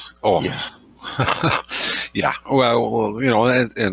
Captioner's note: laughs